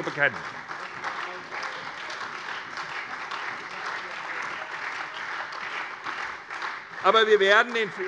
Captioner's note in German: Beifall SPD und Freie Demokraten